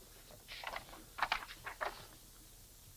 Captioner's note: paper rustles